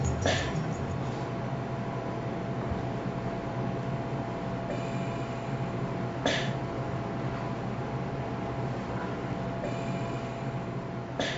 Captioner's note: ventilator hissing